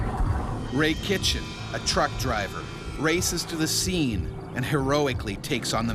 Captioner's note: voiceover